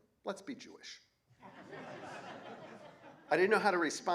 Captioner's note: laughter